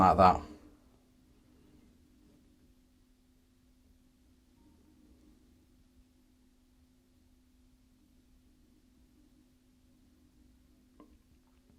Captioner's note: silence